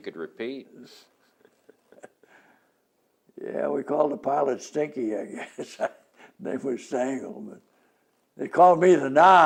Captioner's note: laughs